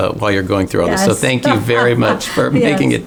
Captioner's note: laughs